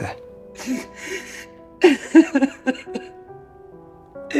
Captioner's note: crying